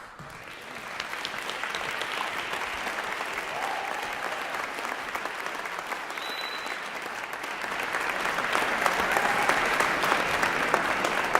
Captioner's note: applause